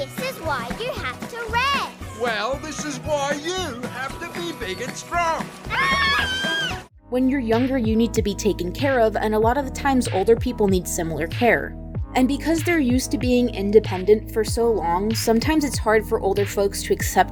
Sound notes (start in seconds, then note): 5.6 Bluey and Bingo screams